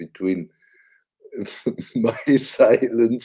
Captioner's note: chuckles